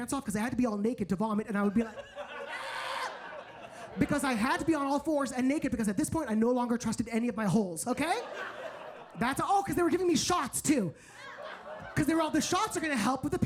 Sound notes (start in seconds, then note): 2.5 screams